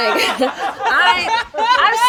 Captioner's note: laughter